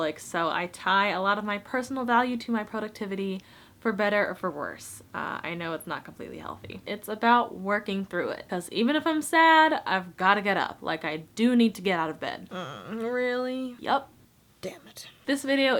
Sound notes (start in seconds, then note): 12.5 grunts